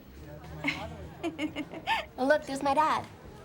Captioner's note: chuckling